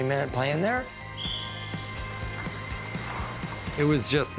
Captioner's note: whistle blow